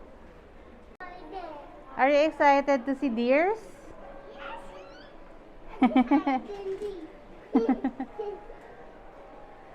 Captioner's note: giggles